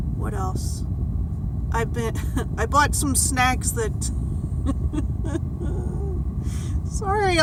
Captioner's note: laughs